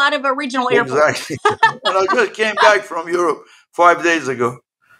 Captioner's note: laugh